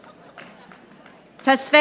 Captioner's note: audience applauding